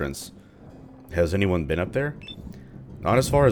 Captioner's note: thunder